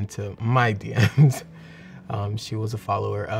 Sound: laughs

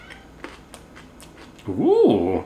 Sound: food crunching

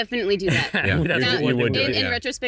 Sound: chuckles

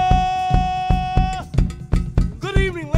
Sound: percussive music continues; cowbell clanking

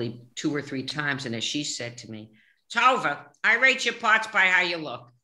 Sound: imitating her mother

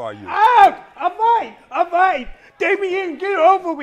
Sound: screams

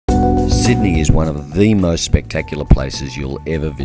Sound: voiceover

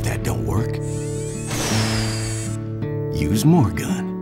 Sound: Sentry whines; Sentry fires rockets

